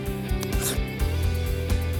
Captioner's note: Param inhales